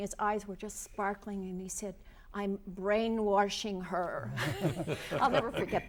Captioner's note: laughter